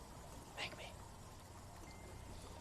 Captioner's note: whispers